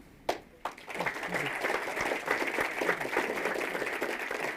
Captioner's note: audience applauds